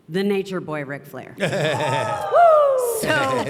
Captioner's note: and audience cheering